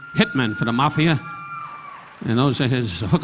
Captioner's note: ladies cheering